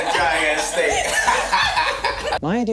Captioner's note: group laughs